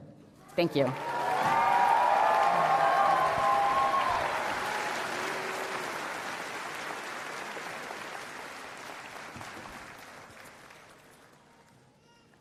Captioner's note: applause and Cheering